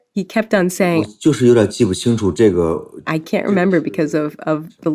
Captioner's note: speaking Mandarin Chinese